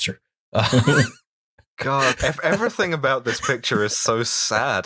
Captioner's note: laughter